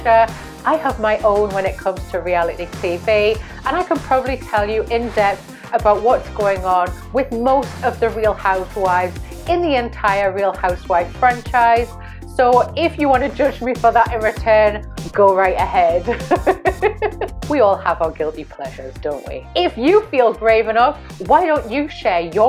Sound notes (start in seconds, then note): 16.0 laughs